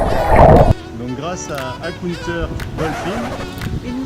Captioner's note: french accent